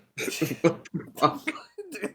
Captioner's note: laughs